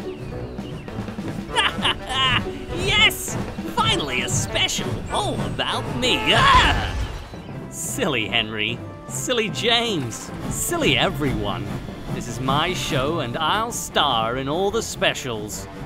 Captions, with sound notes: (laughs) Yes! Finally a special all about me Argh! Silly Henry Silly James Silly everyone This is my show and I’ll star in all the specials